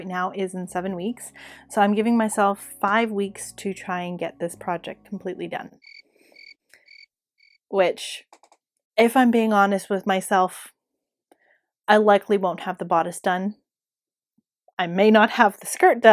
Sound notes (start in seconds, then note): 6.3 crickets